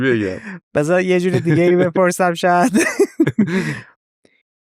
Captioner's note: laughs